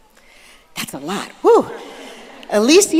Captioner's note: audience laughing